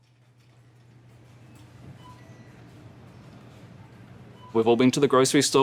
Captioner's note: cash register beeping